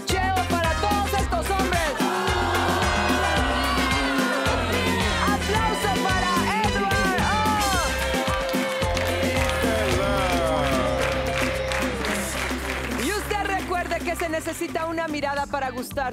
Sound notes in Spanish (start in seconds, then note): 4.7 Abucheo; 10.6 Aplausos